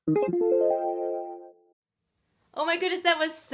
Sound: electronic tone

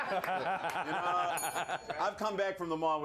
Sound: laughter; bell rings

